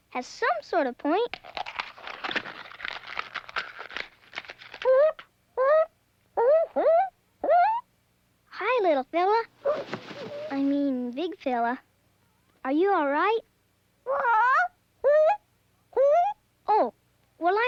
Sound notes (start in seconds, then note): 1.3 cracking; 4.9 hooting; 9.4 feathers ruffling; 14.0 squawks and hoots